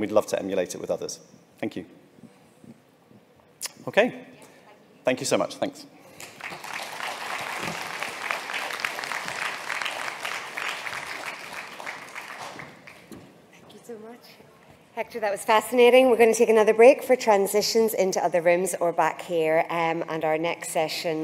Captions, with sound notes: we'd love to emulate it with others. Thank you. Okay. Thank you so much. Thanks. [applause] Hector that was fascinating. We're going to take another break for transitions into other rooms or back here. And our next session